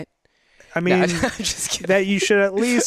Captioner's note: laughing